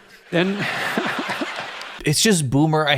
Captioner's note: audience laughs